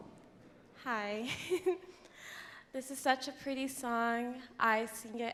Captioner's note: laughs